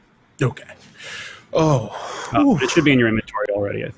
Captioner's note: exhales loudly